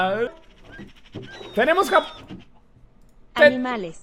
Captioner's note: laughing; barrels opening and closing; text-to-speech